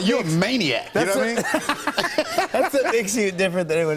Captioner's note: laughter